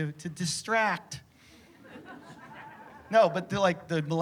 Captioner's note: laughter